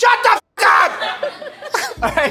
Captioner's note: laughing